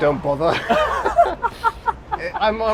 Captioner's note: both laugh